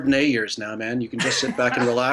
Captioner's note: laughs